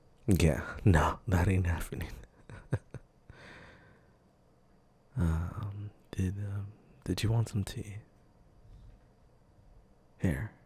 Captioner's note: soft laugh